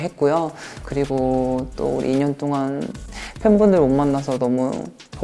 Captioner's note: sniffle